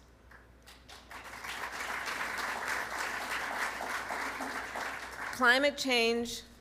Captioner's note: applause